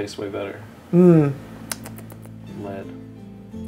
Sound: smacks lips in mock delight

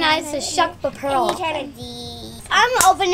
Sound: popping

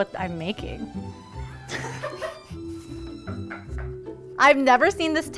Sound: laughing

